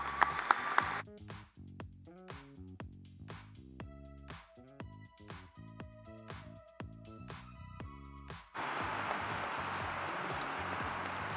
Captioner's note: applause